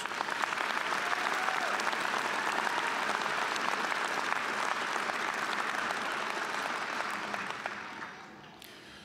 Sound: applause

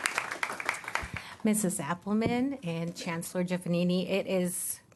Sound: applause

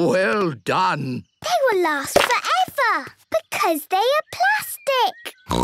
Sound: snorting

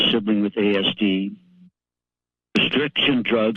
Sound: pause

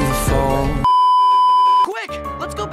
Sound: beeeeeep

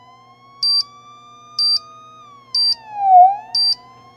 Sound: beeping

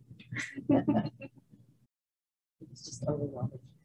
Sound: group laughing

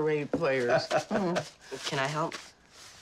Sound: chuckling

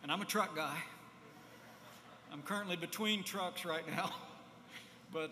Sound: laughter

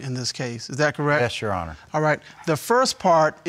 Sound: none

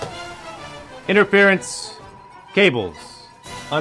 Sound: whistle

